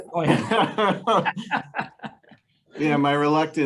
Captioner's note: panelists laughing